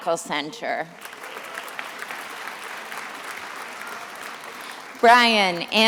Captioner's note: attendees applauding